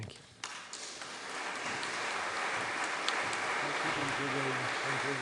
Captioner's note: audience clapping